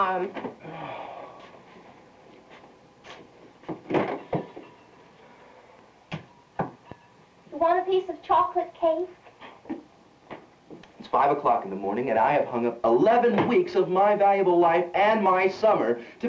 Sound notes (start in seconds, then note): 0.6 sighs; 3.8 fridge door opens